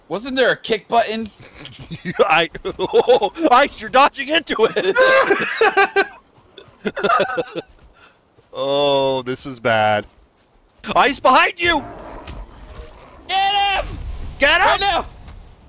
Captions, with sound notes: Wasn't there a kick button? Ice, you're dodging into it! *panicked laughter* Oh, this is bad... Ice, behind you! Get him right now! Get him!